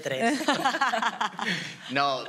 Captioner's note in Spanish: algunos ríen